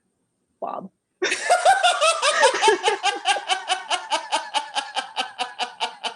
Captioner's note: laughter